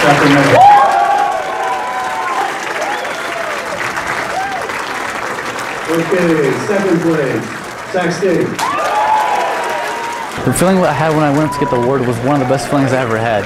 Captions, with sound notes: [ Cheering & Applause ] Okay, second place, Sac State. >> The feeling I had when I went up to get the award was one of the best feelings I ever had.